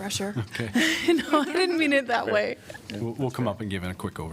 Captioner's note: laughter